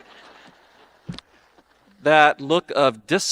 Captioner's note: audience laughing